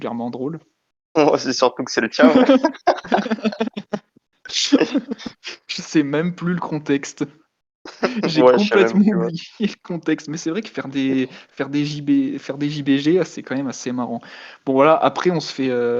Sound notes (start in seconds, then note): 2.2 laugh